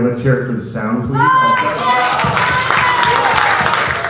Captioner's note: cheering